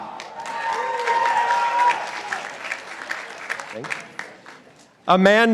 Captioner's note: participants applauding